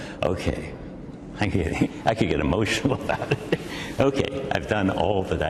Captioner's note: laughs